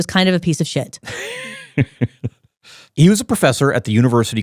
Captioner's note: laughs